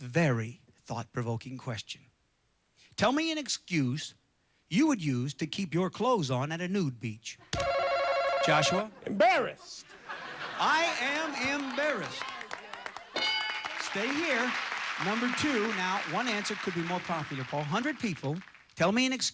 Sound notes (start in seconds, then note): 9.8 audience laughing; 14.4 audience applauding